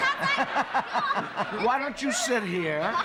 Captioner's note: laughter